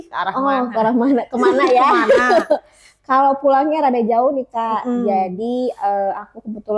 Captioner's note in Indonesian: tertawa